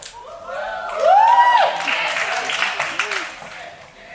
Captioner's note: cheering and applauding